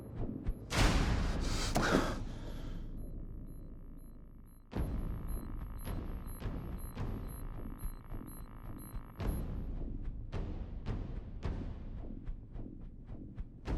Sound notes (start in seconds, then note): 1.2 Steven breaths shakily; 4.6 intense music continues